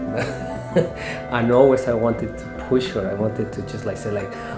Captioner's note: laughs; laughs